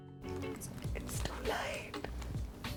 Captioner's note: whispers